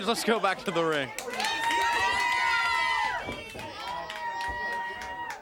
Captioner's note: crowd cheering